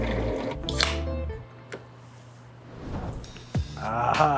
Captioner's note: can popping